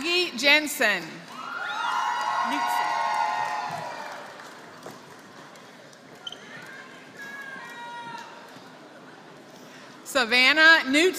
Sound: applause

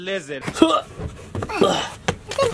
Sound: grunting

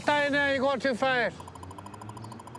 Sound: radar gun chirping

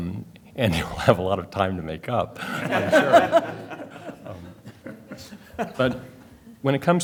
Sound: laughter

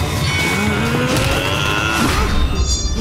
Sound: grunting; gasping

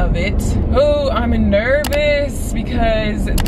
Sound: mouse clicking

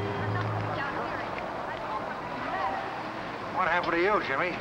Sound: people chattering

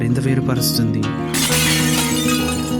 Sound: falling Plates crashing

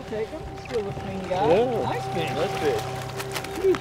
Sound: fish thrashing; trolling motor humming

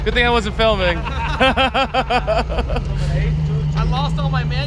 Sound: all laughing

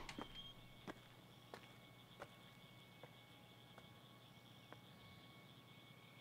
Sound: footsteps walking away

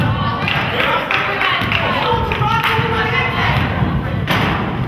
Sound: crowd claps

